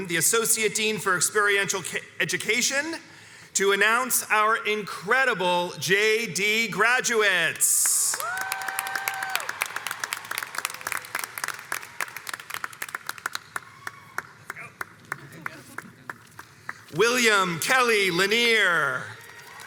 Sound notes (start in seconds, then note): 8.0 crowd cheers